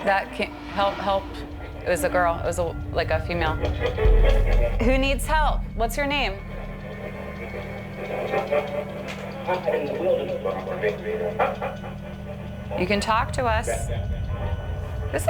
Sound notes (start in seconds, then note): 7.0 static and muffled voices coming from radio; 9.6 ominous music